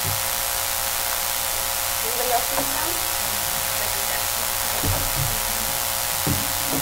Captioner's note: chattering